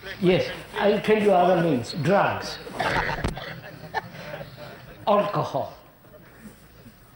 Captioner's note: laughter